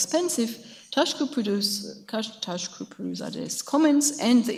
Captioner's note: speaks in a foreign language